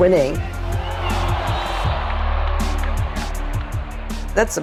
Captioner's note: crowd cheering